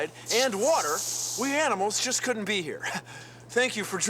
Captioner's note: chuckles